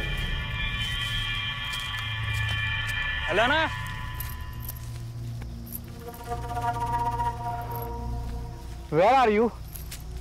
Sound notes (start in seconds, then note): 0.5 rustle of the leaves